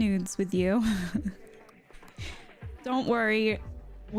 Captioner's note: chuckles